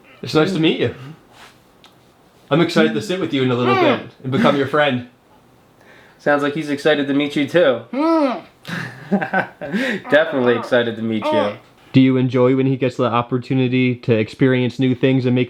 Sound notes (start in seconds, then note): 8.6 laughing